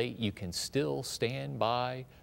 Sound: none

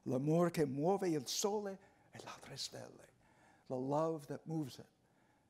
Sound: speaking foreign language

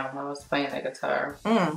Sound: none

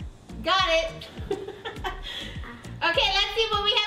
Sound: laughs

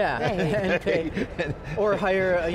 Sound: both chuckling

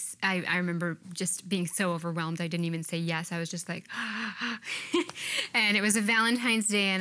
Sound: gasps

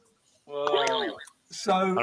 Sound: boing

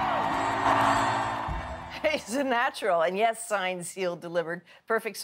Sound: cheers and Applause

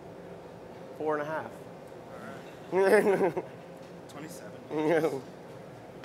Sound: laughter

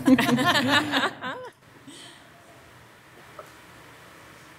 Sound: all softly laughing

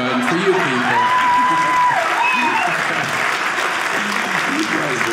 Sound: audience cheering

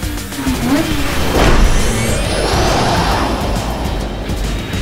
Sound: exciting music; engines revving

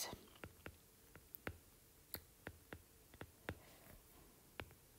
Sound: digital pen tapping noise

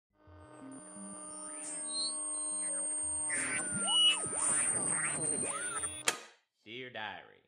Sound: high pitched sci-fi noises, followed by a clicking sound

